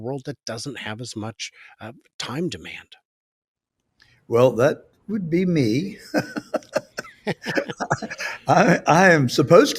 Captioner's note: laughs